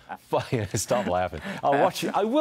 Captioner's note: laughter